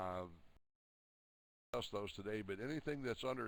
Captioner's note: audio drops